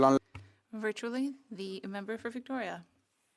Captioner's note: speaking French